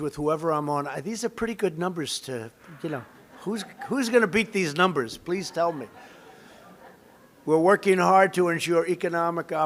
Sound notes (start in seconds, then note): 3.2 laughter; 5.4 laughter